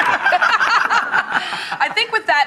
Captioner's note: both laughing